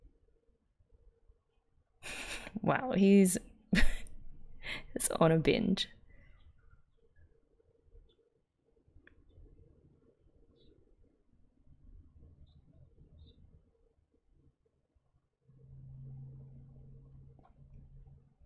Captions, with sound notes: Wow [laughs] he's on a binge.